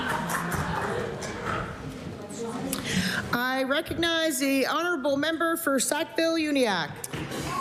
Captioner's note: applause